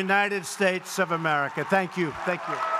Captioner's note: applause